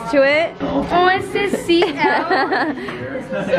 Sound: laughs

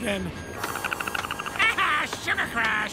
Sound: Perry chatters

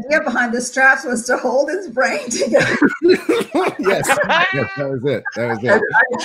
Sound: members laugh

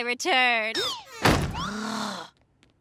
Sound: groaning

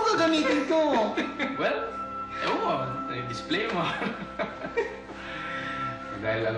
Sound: both laugh

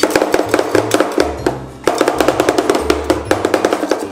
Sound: spatula chopping

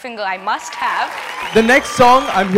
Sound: cheering

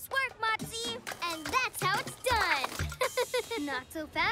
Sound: giggles

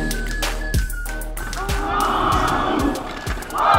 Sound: clapping

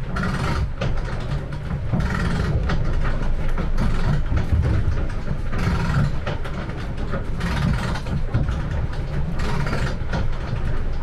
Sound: winch sounds

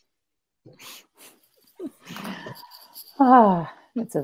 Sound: women giggle

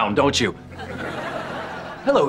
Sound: laughing

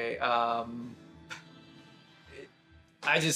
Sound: he stammers

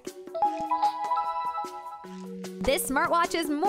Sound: watch chiming

